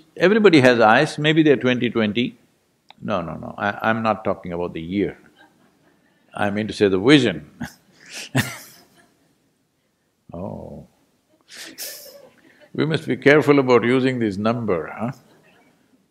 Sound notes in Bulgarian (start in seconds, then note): 11.3 Смее се